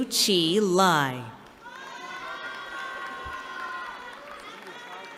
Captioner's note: cheering